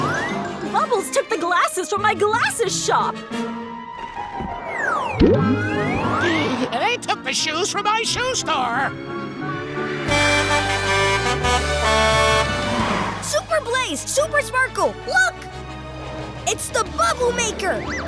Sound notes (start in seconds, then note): 5.8 gasps; 10.0 honking